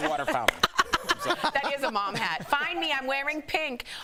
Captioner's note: laughter